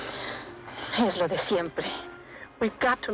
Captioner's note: woman speaks Spanish